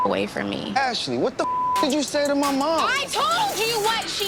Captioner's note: beep